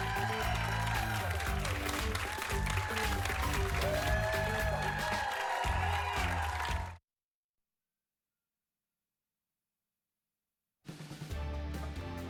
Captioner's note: cheers and applause